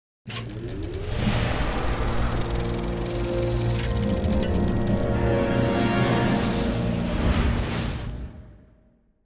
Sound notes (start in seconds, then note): 2.1 film projector whirring; 2.9 cinematic melodic music; 6.9 whooshing